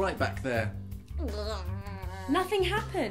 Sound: groaning

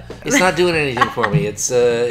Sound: laughs

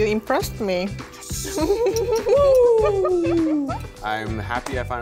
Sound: shouting

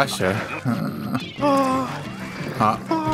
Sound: still out of breath from laughing

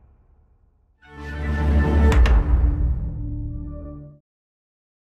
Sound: note thrums and whooshes

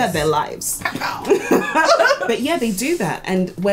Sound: laugh

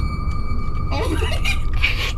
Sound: laughs

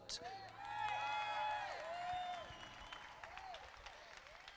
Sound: crowd applauding

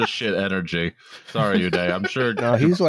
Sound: laughter

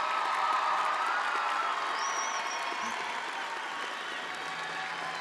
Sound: attendees applauding and cheering

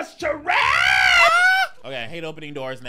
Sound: screaming

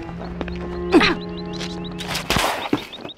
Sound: grunts

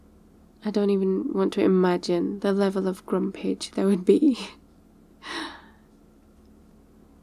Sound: laughs

